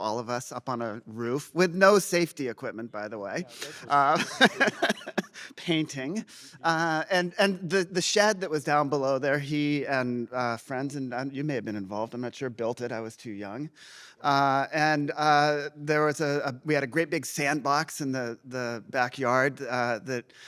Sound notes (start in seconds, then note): 3.5 laughs